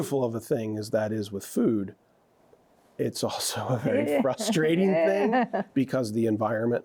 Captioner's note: chuckles